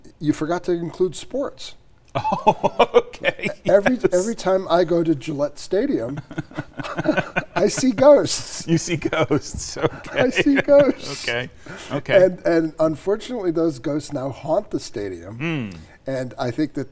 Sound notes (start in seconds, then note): 2.1 laughing; 6.1 both chuckling